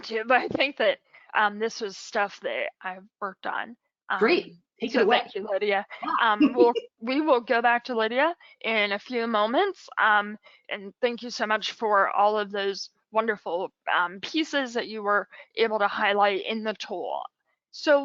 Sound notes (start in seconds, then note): 5.9 laughing